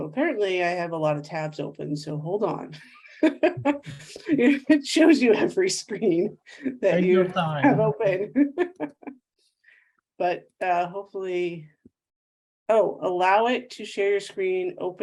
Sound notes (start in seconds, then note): 3.0 laughs